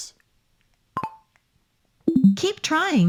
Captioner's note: microphone beeping